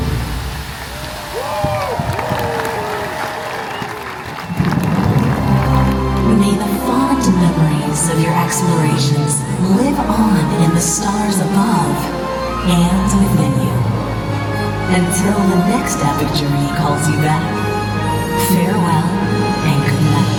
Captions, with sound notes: (fountain splashes) (crowd cheers) May the fond memories of your explorations live on in the stars above, and within you. Until the next Epic journey calls you back, farewell, and good night.